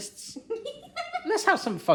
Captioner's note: laughing